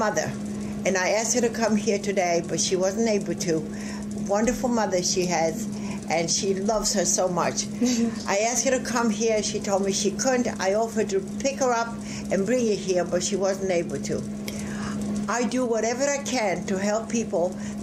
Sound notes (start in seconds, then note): 7.7 chuckles